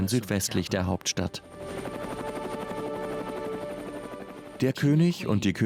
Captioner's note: helicopter engine running